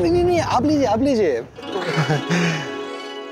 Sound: chuckles

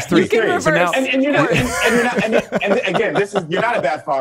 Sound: laughs

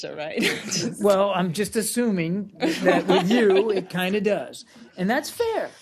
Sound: laughter

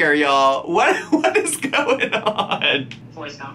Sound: laughing

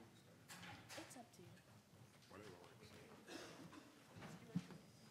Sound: panelists murmuring

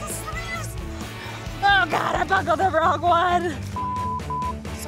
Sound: beep

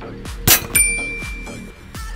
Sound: ding

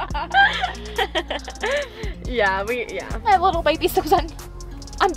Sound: girls giggling

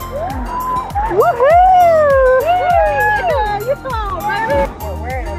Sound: cheering

